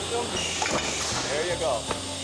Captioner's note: thud; claps